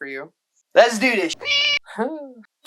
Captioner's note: meow